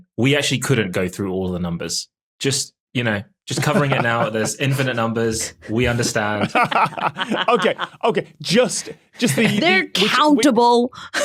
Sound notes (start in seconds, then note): 5.7 group laughing